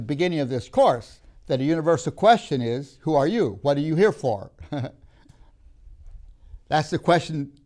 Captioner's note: laughs